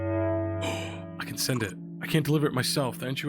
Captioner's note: gasps